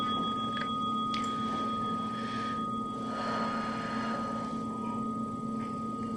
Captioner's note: timer dings